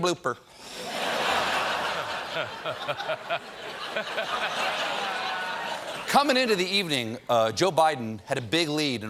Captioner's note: laughter